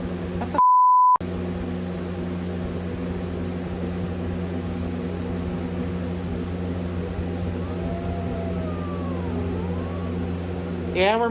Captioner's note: Caprice growls